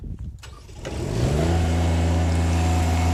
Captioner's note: engine starts